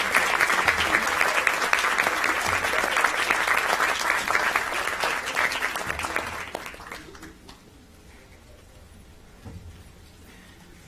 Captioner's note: applause